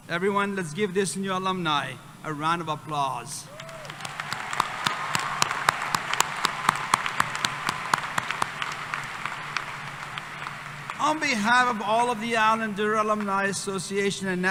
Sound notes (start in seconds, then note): 3.5 applause